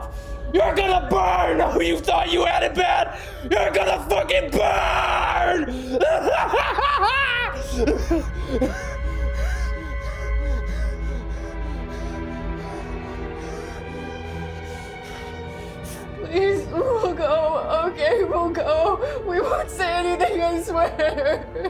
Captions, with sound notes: You are gonna burn who you thought you had in bed. You're gonna fucking burn! (maniacally laughing) (dramatic ominous music) - Please, we'll go. Okay, we'll go. We won't say anything, I swear.